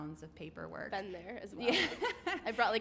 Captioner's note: laughs